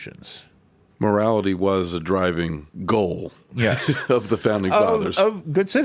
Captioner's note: laughs